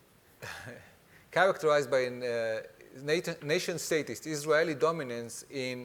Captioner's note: chuckles